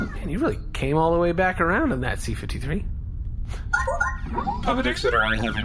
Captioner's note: incoming transmission beeps